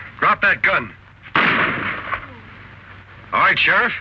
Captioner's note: gun fires